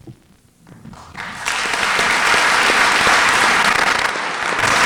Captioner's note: applause